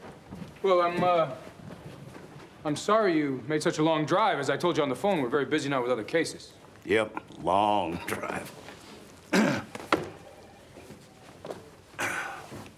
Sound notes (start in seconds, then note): 9.3 clears throat